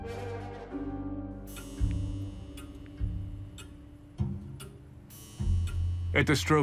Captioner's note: clock clicking, tolls